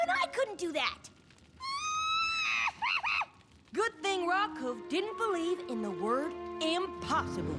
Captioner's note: screaming laugh